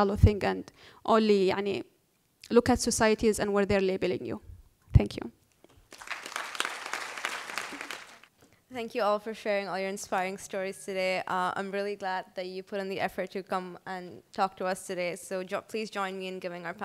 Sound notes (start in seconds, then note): 5.8 applause